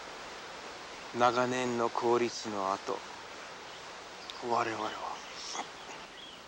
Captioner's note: speaking foreign language